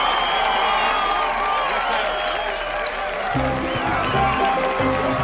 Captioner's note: cheering, Whistling